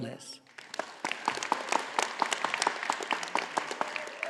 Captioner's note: audience applauding